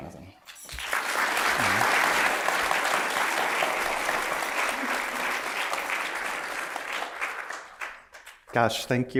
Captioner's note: applause